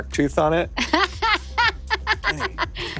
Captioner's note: laughing